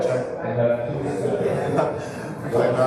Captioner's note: laughing